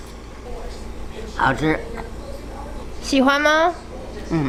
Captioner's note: grandma speaking Chinese; speaking Chinese